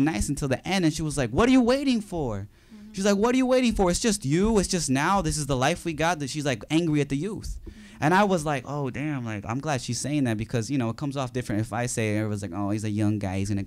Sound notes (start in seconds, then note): none